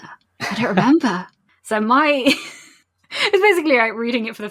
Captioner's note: laughs